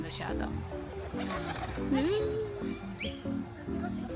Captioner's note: the pigeons behind me took off and made a very loud sound